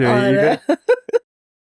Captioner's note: laughs